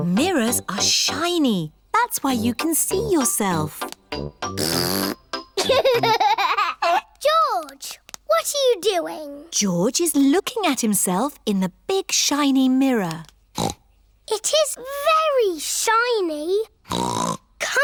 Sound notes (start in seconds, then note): 4.5 blows raspberry; 5.6 giggles; 13.5 snorts